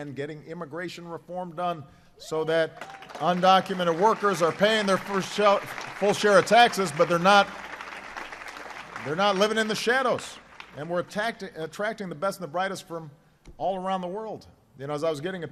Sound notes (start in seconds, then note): 9.4 applause